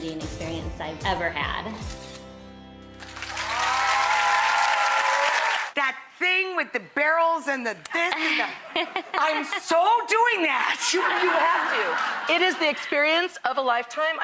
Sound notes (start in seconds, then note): 3.0 audience applause; 10.6 audience laughter